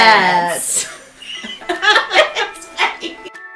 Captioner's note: laughing